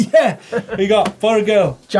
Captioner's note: laughs